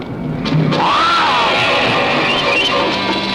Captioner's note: growling; suspenseful music